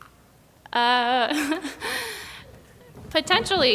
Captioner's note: chuckles